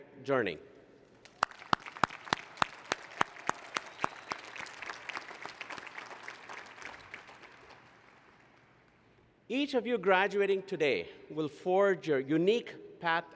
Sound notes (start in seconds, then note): 1.2 applause